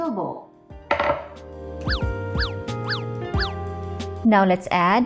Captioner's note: bowl thuds